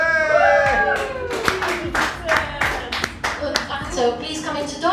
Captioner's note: everyone cheers and applauds